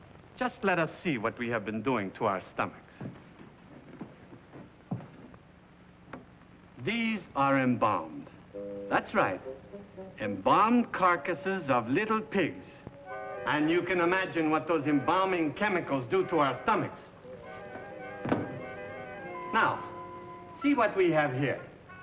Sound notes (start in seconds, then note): 3.0 Mr. Greely's footsteps